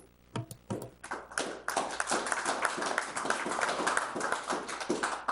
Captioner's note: audience applauds